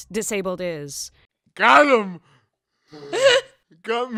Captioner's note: laughs